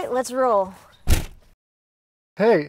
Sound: door closing sound

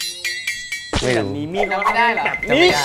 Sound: argument sound from outside

